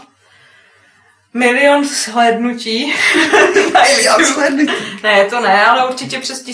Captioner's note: laughs